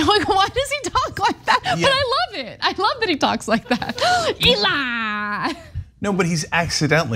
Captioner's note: laugh